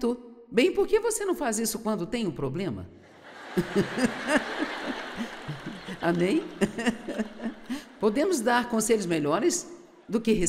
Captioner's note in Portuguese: risos